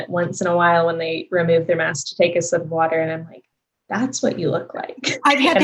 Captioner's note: laughs